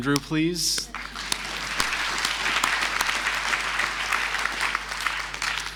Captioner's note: audience applauding